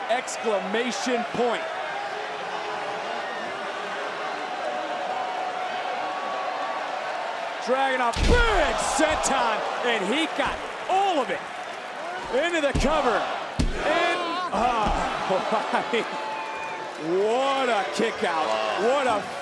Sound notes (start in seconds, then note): 14.3 crowd counts